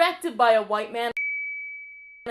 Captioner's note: ding